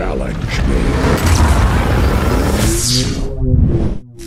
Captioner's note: Godzilla fires atomic breath